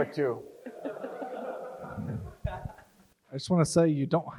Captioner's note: crowd laughs